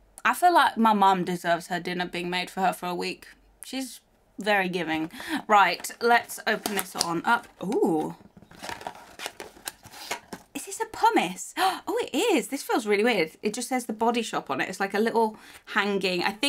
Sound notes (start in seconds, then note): 11.9 gasps